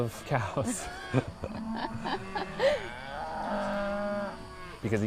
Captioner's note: cows mooing